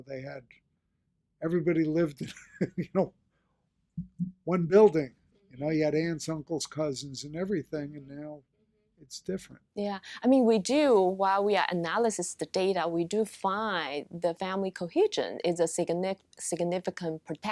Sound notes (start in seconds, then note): 2.2 chuckles